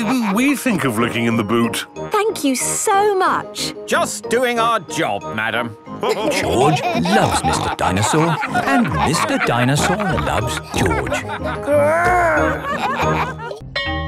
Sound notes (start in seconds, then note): 6.5 all laughing